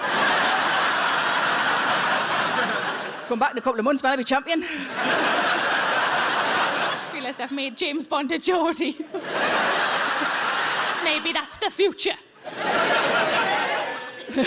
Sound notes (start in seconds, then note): 0.0 audience laughing; 4.7 audience laughing; 8.9 audience laughing; 12.4 audience laughing and cheering; 14.2 Sarah laughing